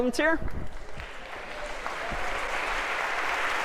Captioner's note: applause